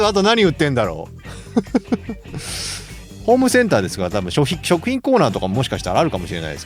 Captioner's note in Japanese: 笑い